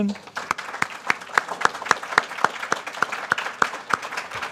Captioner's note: audience applauding